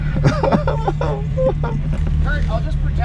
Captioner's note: engine idling; mock crying